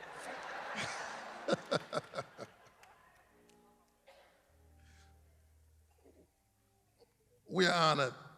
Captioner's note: laughter